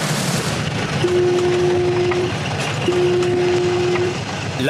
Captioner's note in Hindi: अलार्म बज रहा है